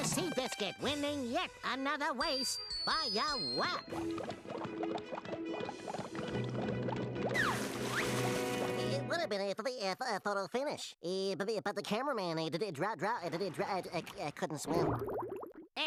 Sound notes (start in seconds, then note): 3.8 water bubbling